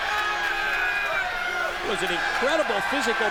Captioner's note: crowd chatter